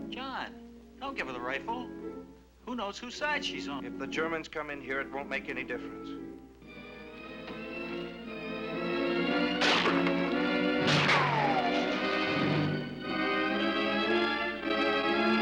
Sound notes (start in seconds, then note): 6.7 suspenseful orchestral music; 9.5 bullet ricochets; 9.5 gun firing